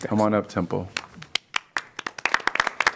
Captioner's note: applause